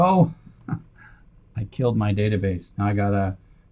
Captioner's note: laugh